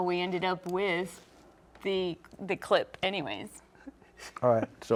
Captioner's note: laughing